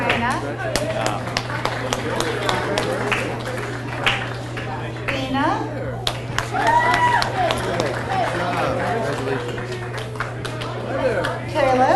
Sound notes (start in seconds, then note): 0.0 audience cheers and applauds; 0.0 audience applauds; 6.0 audience cheers and applauds